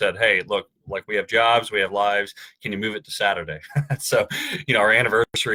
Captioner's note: chuckles